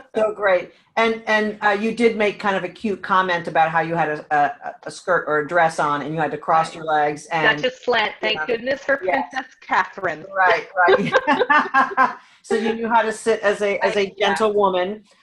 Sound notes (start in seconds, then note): 10.2 laughing